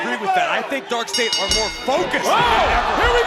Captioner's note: bell rings